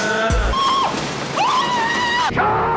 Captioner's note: screaming